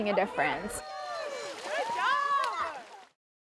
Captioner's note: water splashing and children playing